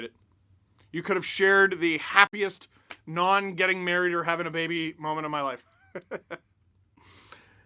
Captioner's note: laughter